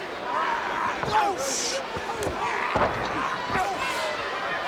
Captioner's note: ambient chatter